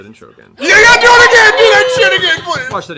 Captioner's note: cheering